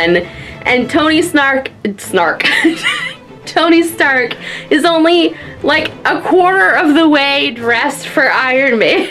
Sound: laughs

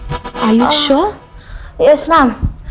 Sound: moaning

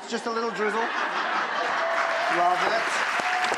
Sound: crowd laughing

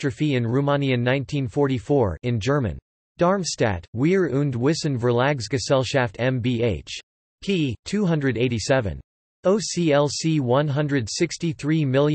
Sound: in German

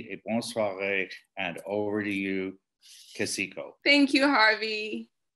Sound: speaking French

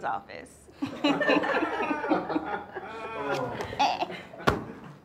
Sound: laughter

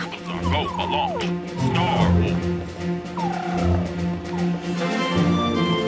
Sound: trilling

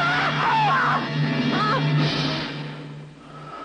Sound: screaming

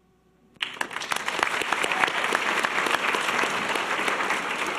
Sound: audience applause

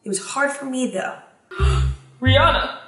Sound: gasps

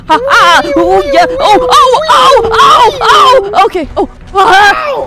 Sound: weird panic noises

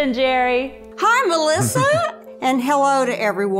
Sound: laughs

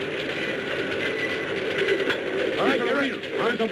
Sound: metal clanking

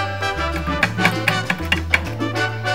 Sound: banging SFX

